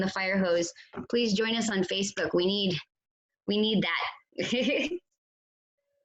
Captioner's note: laughs